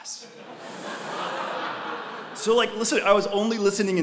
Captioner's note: laugh